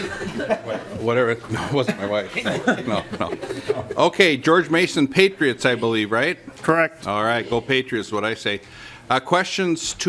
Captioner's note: lauging